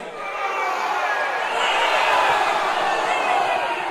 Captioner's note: crowd cheering